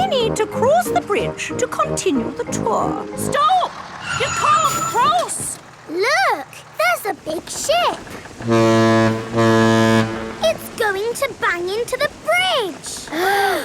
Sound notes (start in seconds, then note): 8.3 ship horn blowing